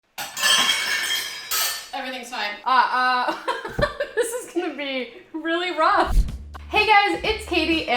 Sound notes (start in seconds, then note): 0.1 dishes clattering; 2.9 vocalizing; 3.2 laughing